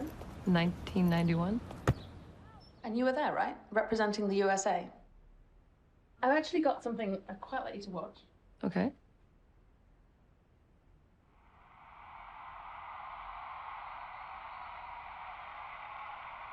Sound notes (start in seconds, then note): 1.6 ball thuds; 11.5 crowd cheers